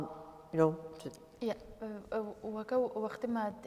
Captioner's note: speaking kurdish